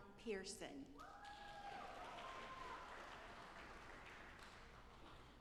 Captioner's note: audience applauding